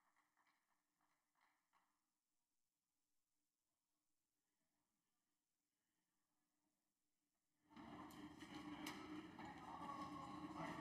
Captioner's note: applause